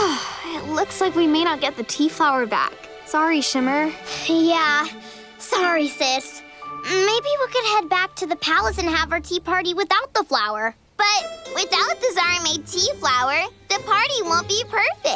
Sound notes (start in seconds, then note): none